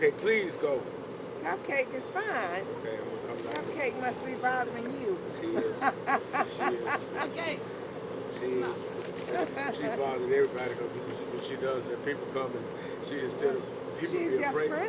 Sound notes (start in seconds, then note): 5.4 laughs